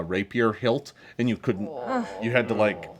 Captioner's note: group moans